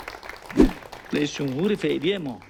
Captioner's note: applause